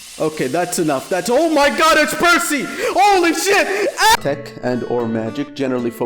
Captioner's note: fight or flight response sounds